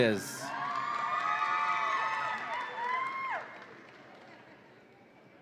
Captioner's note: audience applauds and cheers